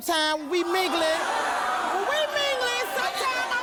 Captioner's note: audience groaning